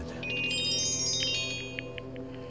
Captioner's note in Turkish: Telefon çalıyor